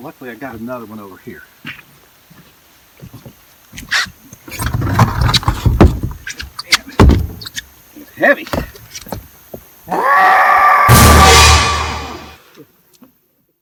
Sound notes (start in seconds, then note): 2.9 footsteps clomping; 4.8 battery clanking; 7.0 battery thuds; 10.9 intense dramatic tones; 13.3 insects chirping